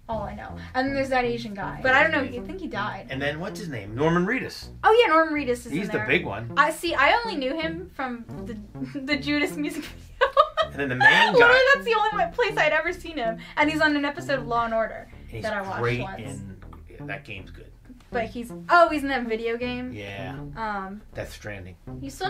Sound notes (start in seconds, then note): 9.5 laughs